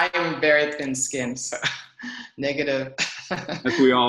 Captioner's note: laughs